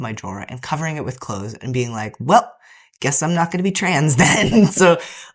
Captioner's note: laughter